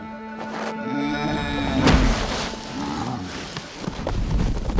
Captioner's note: grunting